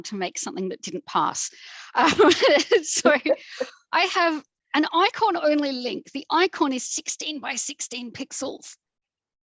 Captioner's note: laughs